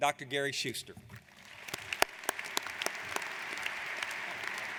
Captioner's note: applauding